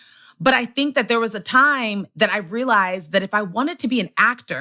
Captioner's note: none